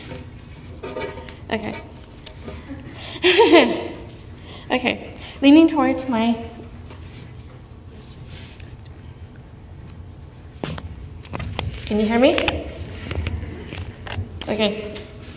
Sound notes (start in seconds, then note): 2.5 laughs